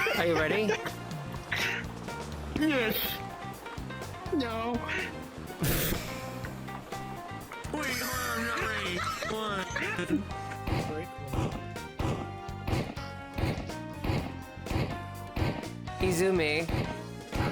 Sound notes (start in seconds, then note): 5.6 sighs; 10.7 TF2 noises